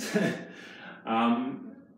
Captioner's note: laughs